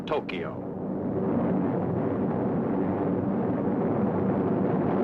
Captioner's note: plane engine roaring